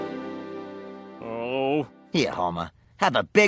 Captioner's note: groan